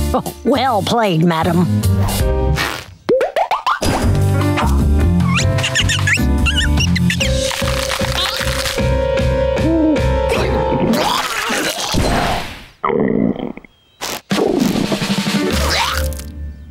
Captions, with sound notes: Well played, madam. [chirping] [hooting] [barfing] [barfing]